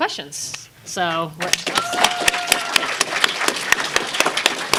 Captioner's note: applause